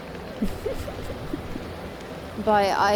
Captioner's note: giggling